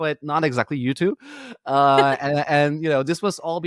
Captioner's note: laughing